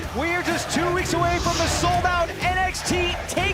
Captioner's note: crowd cheering